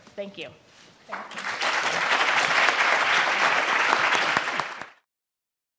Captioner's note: audience applauds